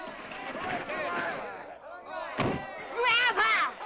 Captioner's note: door thumps